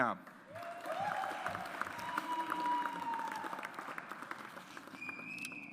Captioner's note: audience applauds